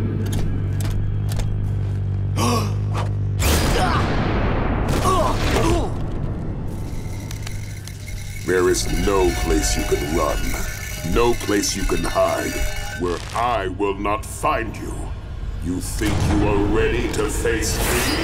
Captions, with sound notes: [gasping] [grunting] There is no place you can run, no place you can hide, where I will not find you! YOU THINK YOU ARE READY TO FACE ME?!